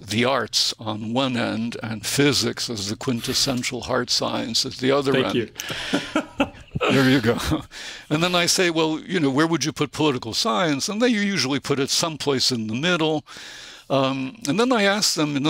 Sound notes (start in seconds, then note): 5.6 chuckle